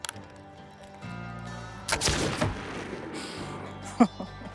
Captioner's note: gunshot; laughs